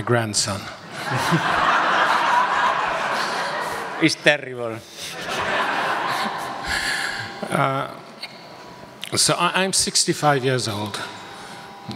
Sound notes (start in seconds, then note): 2.4 audience laughs